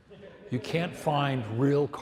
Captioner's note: audience laughs